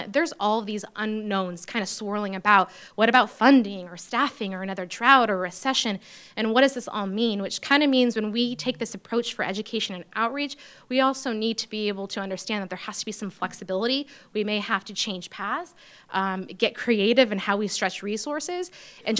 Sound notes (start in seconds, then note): none